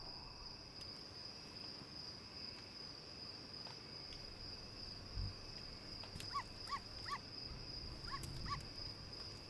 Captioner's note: crickets sound